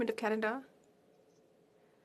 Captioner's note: speaking French